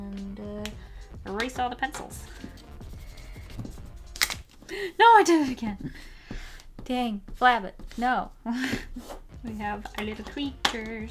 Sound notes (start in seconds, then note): 4.0 paper scrunches